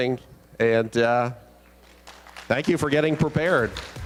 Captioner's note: applause